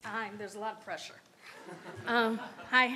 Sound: audience laughs

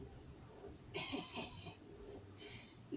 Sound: laughs

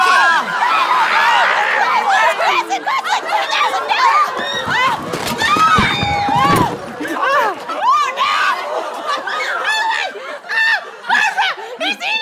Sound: screaming

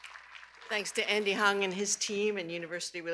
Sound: cheers and applause

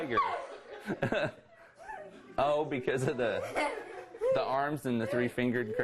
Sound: laughter

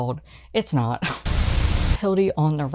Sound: Static

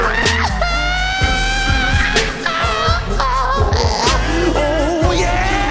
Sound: shrieks and vocals wails

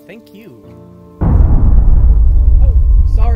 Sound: rumbling

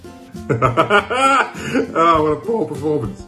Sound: laughs

